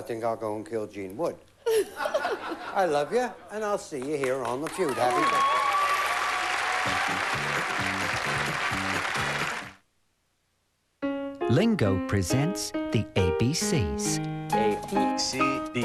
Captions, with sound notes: I THINK I'LL GO AND KILL GENE WOOD. [LAUGHTER] I LOVE YOU, AND I'LL SEE YOU HERE ON THE FEUD. HAPPY BIRTHDAY. [CHEERING]